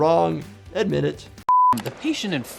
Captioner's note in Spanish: pitido de pantalla